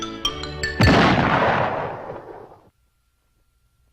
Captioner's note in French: Boum